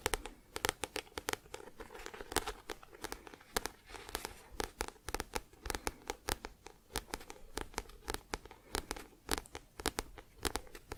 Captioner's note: tapping on book